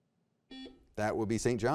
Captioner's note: buzzer beeps